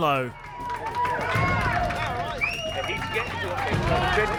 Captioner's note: cheering and applause